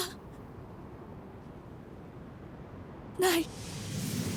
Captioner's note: sounds of wind blowing